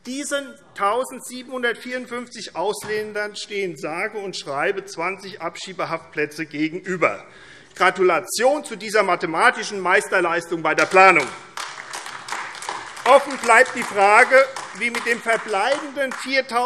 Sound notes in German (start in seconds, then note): 10.8 Beifall AfD